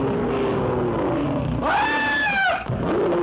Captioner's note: screaming; lion growls